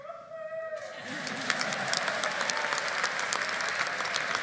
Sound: audience applauding

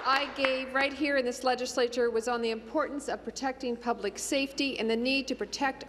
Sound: applause

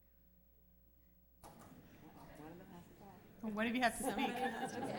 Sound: laughter; laughs

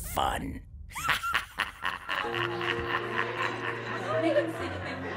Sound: Little Willy laughing

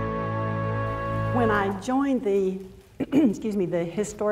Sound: clears throat

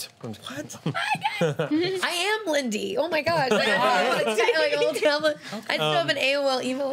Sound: laughing

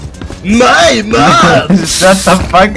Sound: laughs

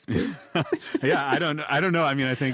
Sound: both chuckle

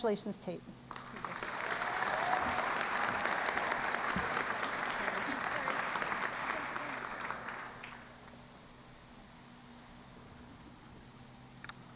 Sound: applause

